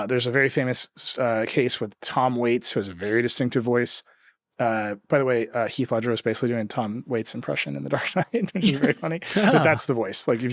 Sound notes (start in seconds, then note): 8.0 chuckles